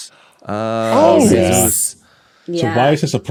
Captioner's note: guests murmur